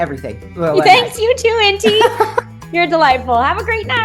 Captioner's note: laughter